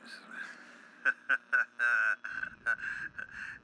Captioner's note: laughs